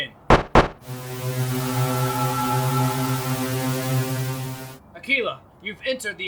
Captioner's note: soldering iron sounds